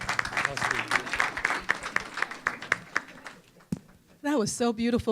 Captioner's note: applause